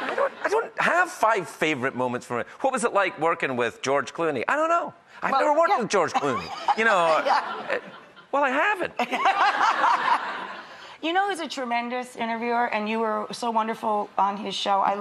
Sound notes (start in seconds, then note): 6.1 audience laughing; 9.1 laughing